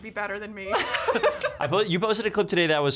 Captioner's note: laughing